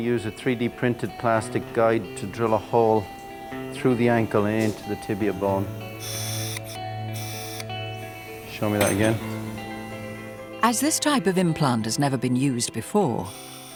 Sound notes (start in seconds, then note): 6.2 surgical instrument humming